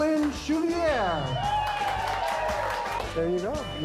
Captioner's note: cheering